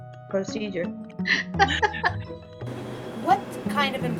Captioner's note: laughs